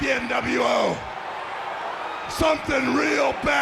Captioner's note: audience jeers